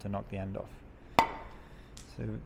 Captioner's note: metal hammering